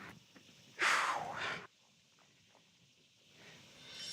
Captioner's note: sighs